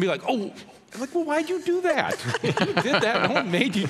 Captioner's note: laughing